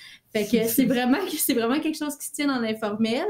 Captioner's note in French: Rires